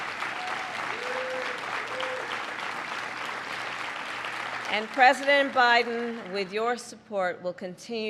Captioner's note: applause